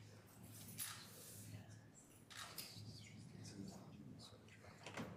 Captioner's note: camera shuttering